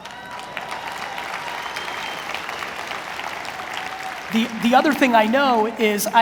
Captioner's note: audience applauds